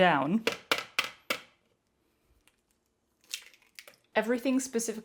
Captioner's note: plastic-y clunking and egg crack sound